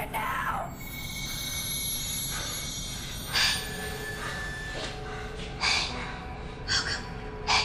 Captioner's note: soft eerie music; Clint breathing heavily